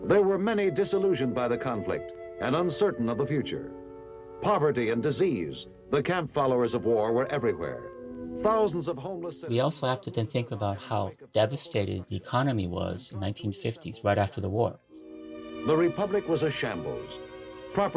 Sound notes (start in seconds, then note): 0.0 soundbite of archived recording; 15.4 soundbite of archived recording